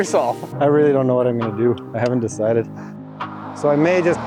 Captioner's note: laughing